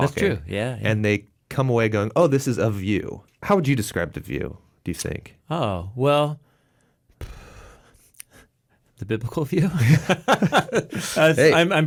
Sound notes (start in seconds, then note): 7.3 sighs; 9.7 laughing